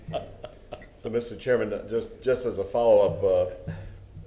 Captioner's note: laughter